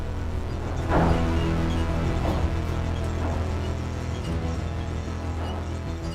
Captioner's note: dramatic tense music; drills clanking and squeaking